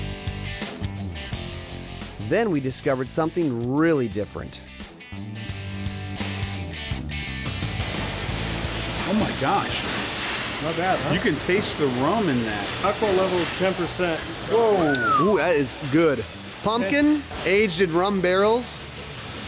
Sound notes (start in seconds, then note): 2.6 voiceover; 14.7 whistles